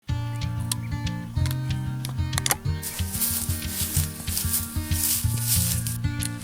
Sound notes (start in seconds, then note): 0.0 guitar strumming; 2.3 gun loading and clicks